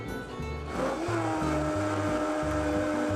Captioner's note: blender whirling